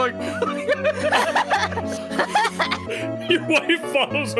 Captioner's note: all laughing